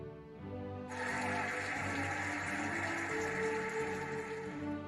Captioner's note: cheering and applauding